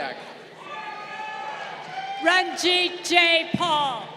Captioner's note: crowd cheering